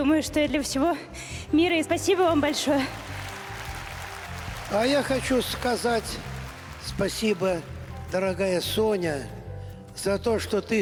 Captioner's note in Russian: аплодисменты